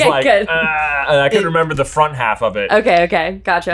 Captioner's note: exclaims